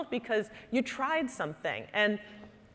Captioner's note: none